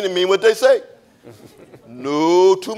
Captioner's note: audience chuckling